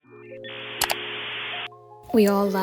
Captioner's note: dial tone; mouse click